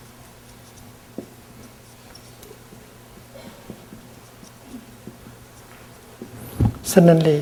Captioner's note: sound of the marker scribbling on the white board